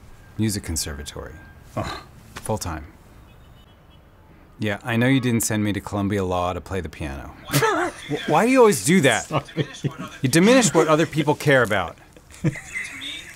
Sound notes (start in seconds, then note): 9.0 laughter; 9.0 more laughter; 12.2 a ton of laughter